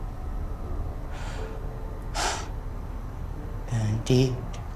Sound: sighs

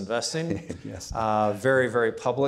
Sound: chuckling

